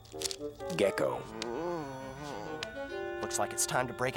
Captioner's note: grunts weakly